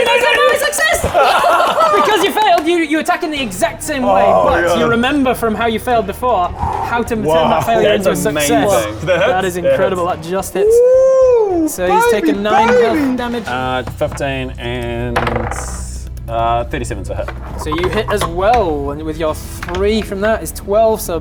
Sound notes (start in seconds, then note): 1.0 jammy laughter